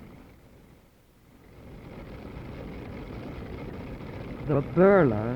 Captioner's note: machine noise